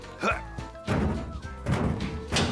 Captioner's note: grunts